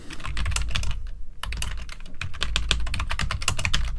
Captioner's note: keyboard clacking